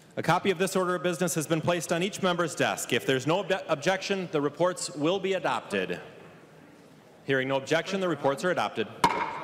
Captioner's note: gavel